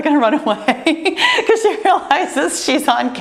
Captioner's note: laughs